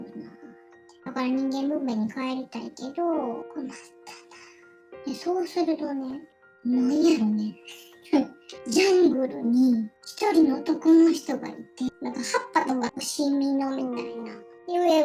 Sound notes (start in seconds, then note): 7.4 laughs